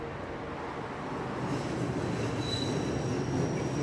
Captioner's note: train squeaking